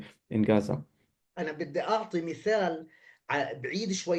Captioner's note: speaking arabic